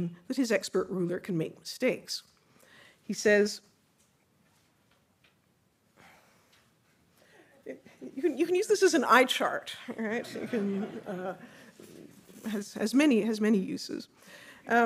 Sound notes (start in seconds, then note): 10.0 audience laughing